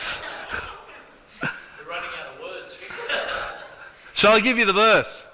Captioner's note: audience laughs